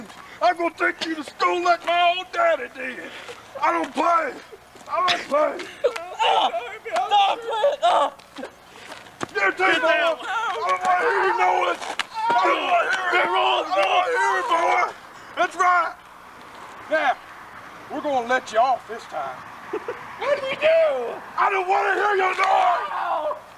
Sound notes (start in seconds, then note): 5.8 smack; 6.1 screams of pain; 12.0 screams; 23.1 owww!